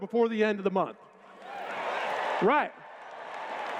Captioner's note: cheers